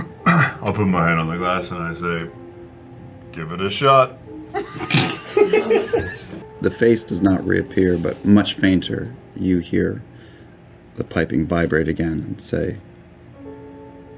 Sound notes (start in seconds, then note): 4.5 laughter